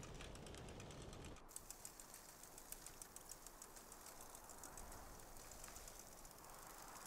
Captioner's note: bike rattling; wind whistling